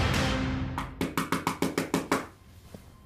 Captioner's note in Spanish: Toques fuertes en la puerta